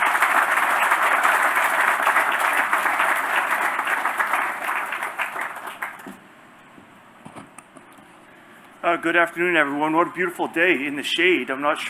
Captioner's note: applause